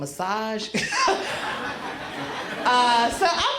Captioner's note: crowd laughs